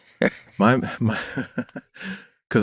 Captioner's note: laughter